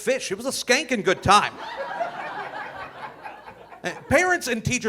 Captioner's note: audience laughing